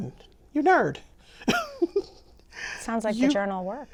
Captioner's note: chuckles